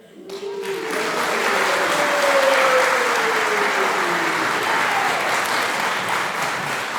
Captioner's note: applause and cheering